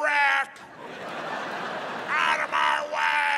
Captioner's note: audience laughing